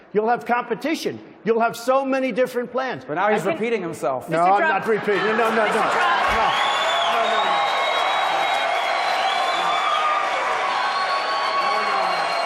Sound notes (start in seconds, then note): 4.6 laughter; 5.1 cheering; 5.7 applause; 12.2 cheering